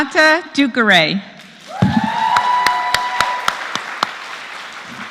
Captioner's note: applause